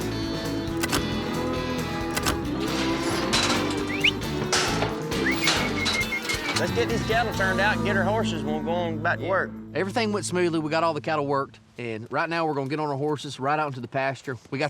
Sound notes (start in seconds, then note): 0.6 ear tag clicking, gate clanking; 3.8 whistling